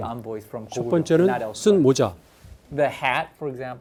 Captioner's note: speaking in Korean